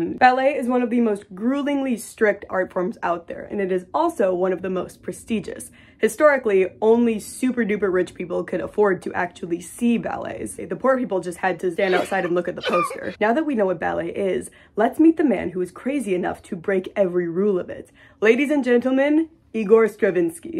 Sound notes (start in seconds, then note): 11.8 coughing sounds